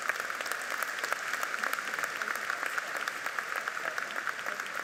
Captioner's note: audience applauding